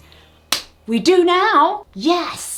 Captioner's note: claps